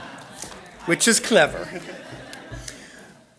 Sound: audience laughing; voiceover

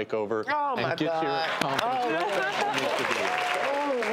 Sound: applauding

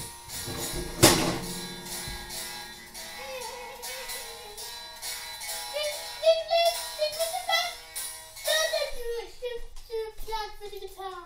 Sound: electric guitar playing; laughing

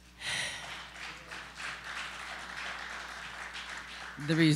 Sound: applause

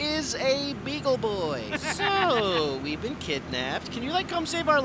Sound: evil laughter

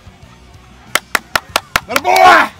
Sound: clap clap clap

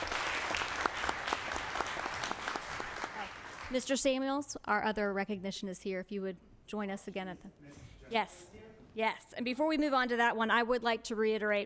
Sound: applause

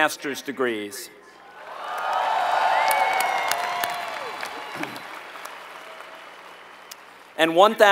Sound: applause

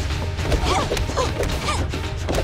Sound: grunting

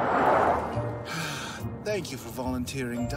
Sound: sigh

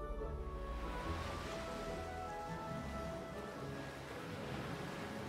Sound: water splashes

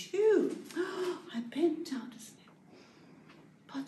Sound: gasp

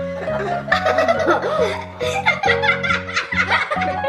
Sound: laughing

